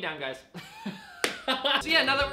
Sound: laughs

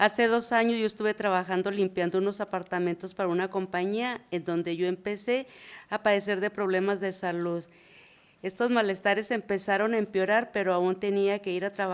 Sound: reading in spanish

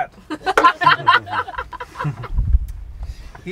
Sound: laughter

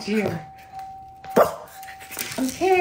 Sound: ding; woof

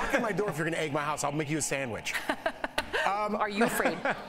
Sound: laughter

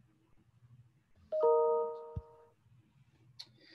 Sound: chime

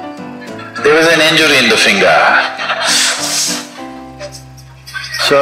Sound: laughter

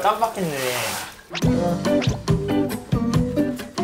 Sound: scrubbing

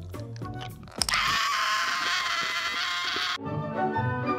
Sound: crunch

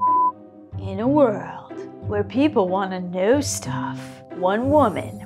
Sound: epic Movie Trailer Guy voice

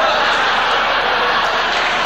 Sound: audience laughing

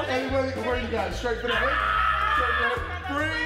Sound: screaming

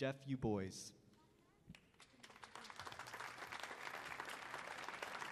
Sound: crowd applauding

